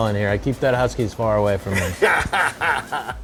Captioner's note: laughter